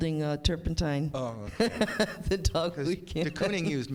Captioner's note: chuckles